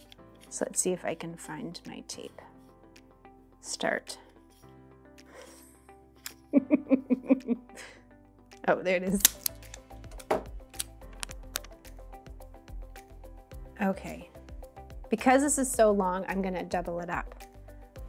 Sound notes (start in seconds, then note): 6.6 laughs